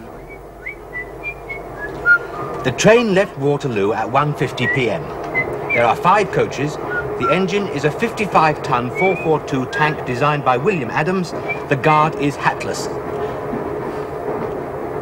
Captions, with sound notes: (Raffles whistles) The train left Waterloo at 1:50pm. There are five coaches. The engine is a 55-ton 442 tank designed by William Adams. The guard is hatless.